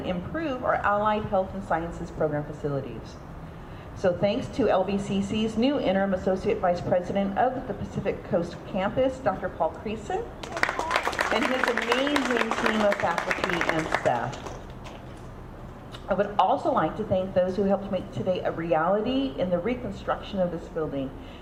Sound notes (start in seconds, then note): 10.4 audience clapping